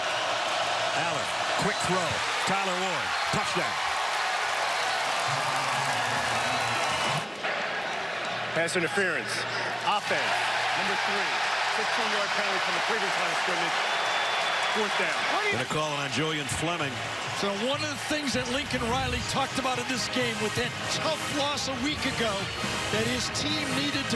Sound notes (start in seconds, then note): 10.7 cheers and applause